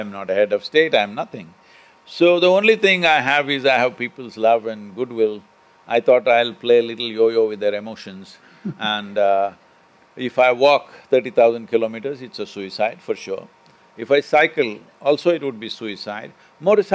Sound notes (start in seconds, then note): 8.6 Manish Laughs